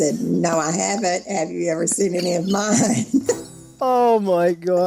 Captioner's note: laughs